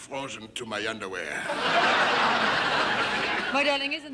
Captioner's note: audience laughing